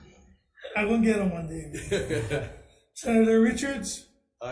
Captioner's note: laughs